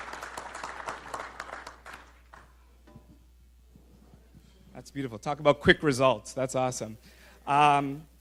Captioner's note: applause